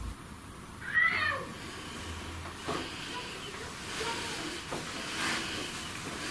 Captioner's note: child shouting; footsteps thudding